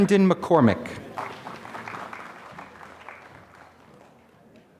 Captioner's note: applause